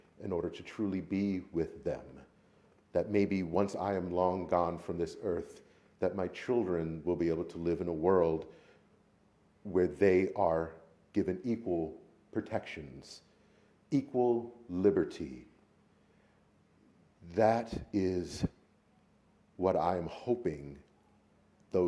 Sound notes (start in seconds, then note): none